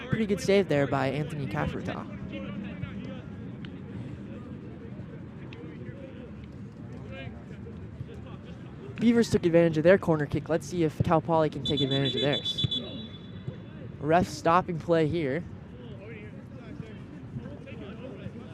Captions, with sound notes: Pretty good save there by Anthony Caffereta. Beavers took advantage of their corner kick. Let's see if Cal Poly can take advantage of theirs. [WHISTLE BLOWS] Ref stopping play here.